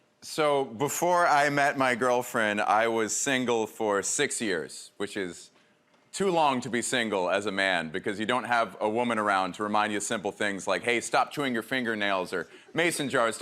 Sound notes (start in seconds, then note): none